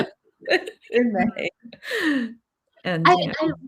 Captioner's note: laughing